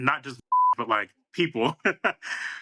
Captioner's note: beep